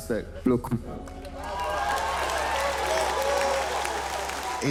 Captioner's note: audience cheering